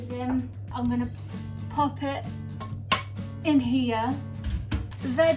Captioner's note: slaps dish